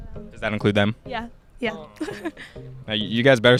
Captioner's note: laughs